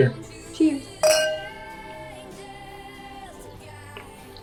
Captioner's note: glasses clink